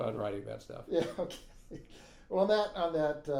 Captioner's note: laughing